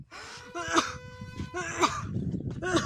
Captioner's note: coughing